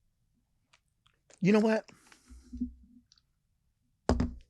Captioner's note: cup thuds